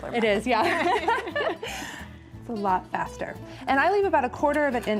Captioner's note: chuckles